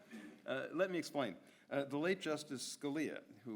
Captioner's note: audience laughs